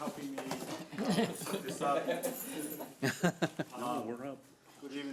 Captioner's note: laughing